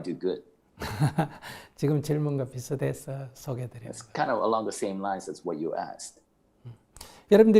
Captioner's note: Sunim Laughter